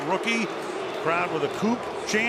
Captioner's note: crowd chanting "coop"